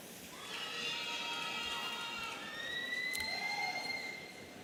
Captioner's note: audience cheering